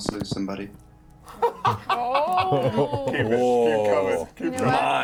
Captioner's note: laughs